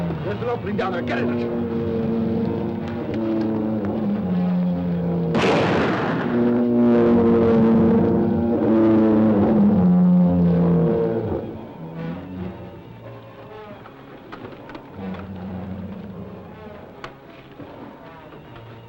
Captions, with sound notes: Lift it up, lean down there, get in it! (lizard bellowing) (shot firing) (lizard bellowing) (dramatic music)